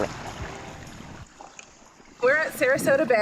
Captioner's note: water splashing